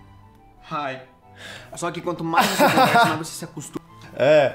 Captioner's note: laughs